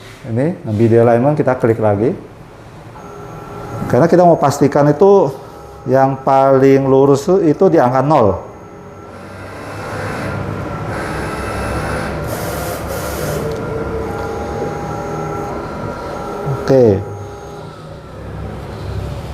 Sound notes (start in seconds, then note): 3.0 printer machine noise